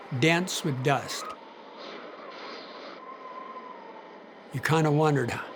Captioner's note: wind howling